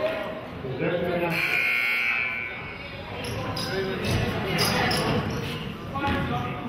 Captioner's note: murmurs; buzzer honks